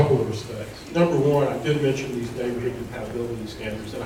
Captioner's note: speaking faintly